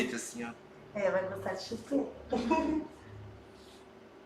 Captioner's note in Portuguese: risos